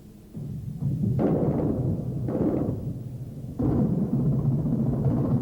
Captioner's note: artillery firing